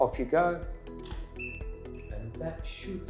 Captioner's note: camera shutters